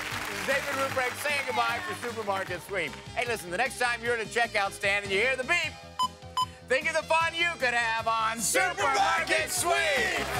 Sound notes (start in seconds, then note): 6.0 beeping